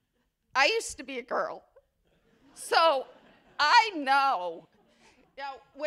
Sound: laughter

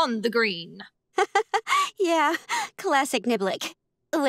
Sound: chuckles

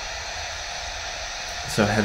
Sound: machine whirring

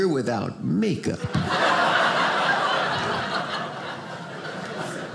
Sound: audience laughing

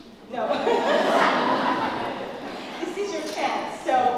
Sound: laugh

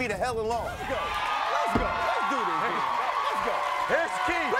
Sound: screaming

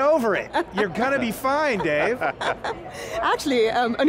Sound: panelists laughing

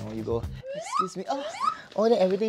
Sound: exclaims in damsel

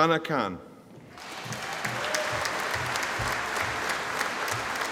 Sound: audience applauding

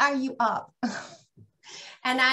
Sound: sighs

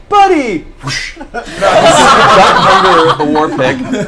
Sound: all laugh

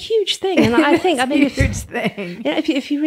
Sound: laughs

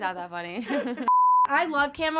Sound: beep

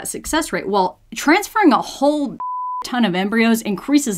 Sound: beep

